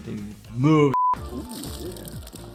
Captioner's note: beep; water splashing